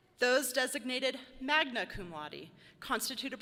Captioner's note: none